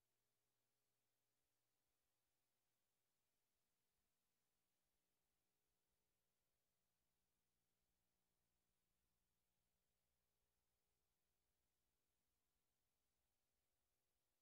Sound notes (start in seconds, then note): none